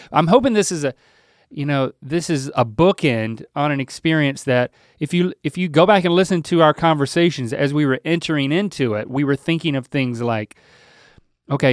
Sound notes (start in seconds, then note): none